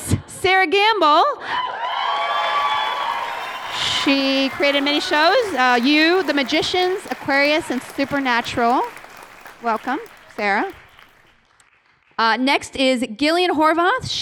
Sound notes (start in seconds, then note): 1.8 cheering